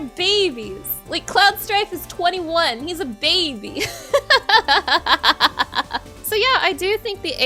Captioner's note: laughing